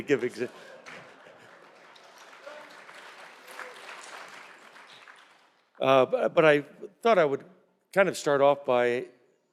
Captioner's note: laughter